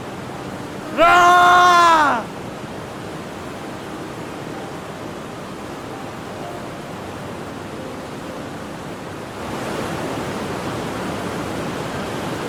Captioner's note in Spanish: grito